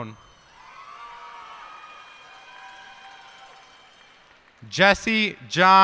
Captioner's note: cheers and applause